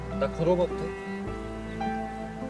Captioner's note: speaking in Korean